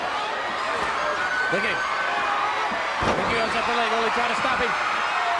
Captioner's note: crowd cheering